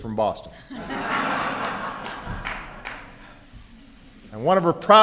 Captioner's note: laughter